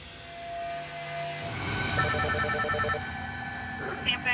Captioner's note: line ringing